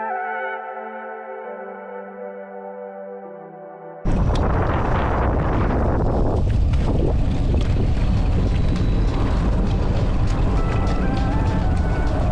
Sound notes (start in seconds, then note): 4.0 wind blowing